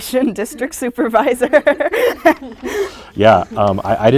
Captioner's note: all chuckling